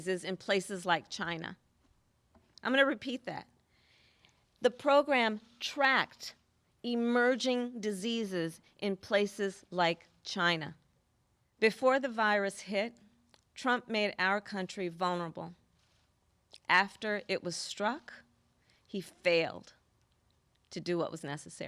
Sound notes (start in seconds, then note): none